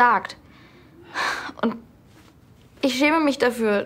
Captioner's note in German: Seufzen